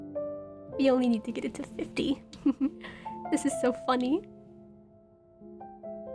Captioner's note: giggles